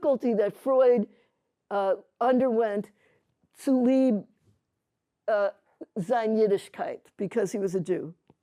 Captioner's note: yiddish